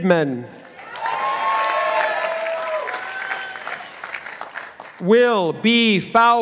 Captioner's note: participants applauding